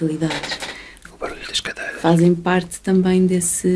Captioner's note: the noise of the chairs!